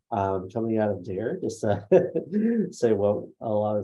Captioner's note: laughs